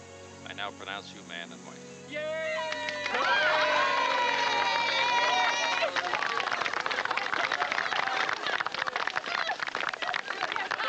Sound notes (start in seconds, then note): 2.6 cheering